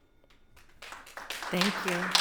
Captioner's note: audience applauds